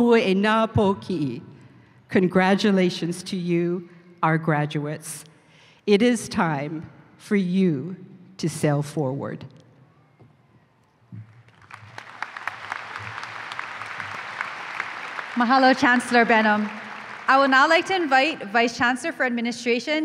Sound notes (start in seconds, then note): 11.3 applause